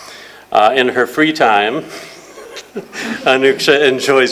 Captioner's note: chuckles